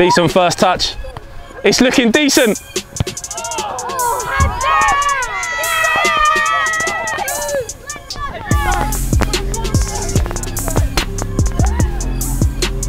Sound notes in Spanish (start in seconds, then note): 5.8 multitud gritando; 8.6 música lenta de hip hop